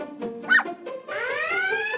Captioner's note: sniff sniff